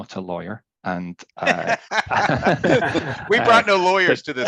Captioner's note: laughing